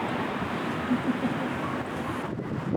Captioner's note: laughing